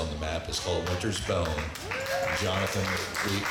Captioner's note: audience clapping